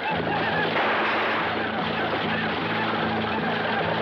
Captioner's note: gunfire banging